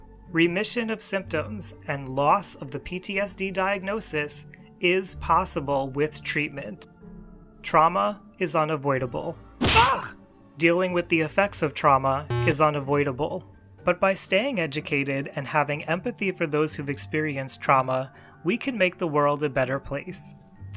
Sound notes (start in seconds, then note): 9.6 scream